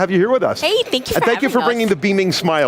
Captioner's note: laughs